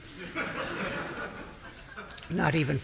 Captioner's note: audience laughing